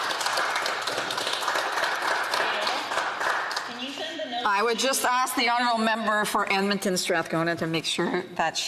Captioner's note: some Applause